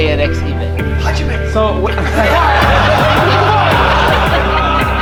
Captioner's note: laughing